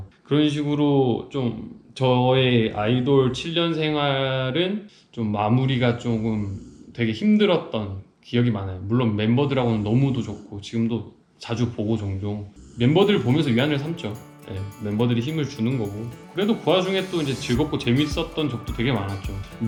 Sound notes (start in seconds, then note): 6.1 is snoring